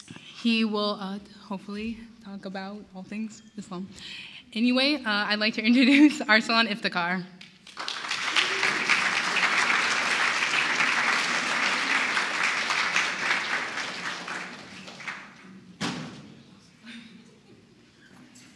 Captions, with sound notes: He will hopefully talk about all things Islam. Anyway I'd like to introduce Arsalan Iftikhar. [Applause]